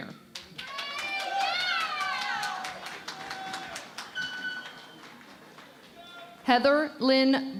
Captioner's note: cheering and Applause